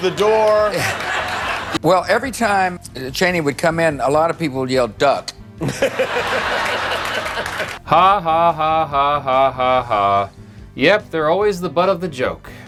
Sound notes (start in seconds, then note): 5.6 laughter